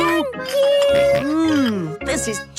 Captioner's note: snorts